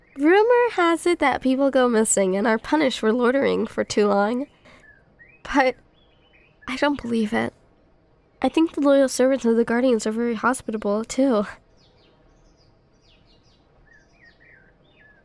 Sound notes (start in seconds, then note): none